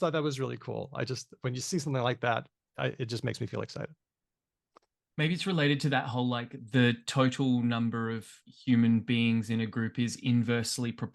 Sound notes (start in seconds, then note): none